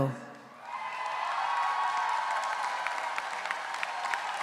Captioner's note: audience cheering